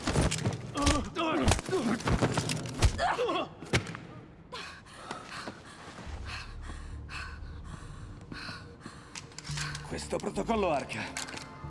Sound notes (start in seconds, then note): 4.5 breathing heavily